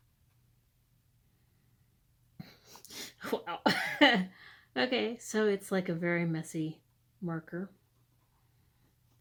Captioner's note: laughter